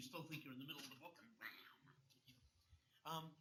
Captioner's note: makes duck-like noise